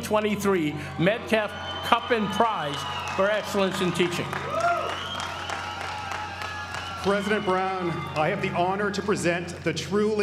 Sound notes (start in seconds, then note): 4.8 applause